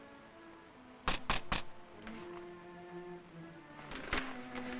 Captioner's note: knocking on window